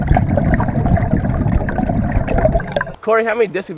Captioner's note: air gurgling